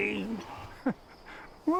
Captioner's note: chuckles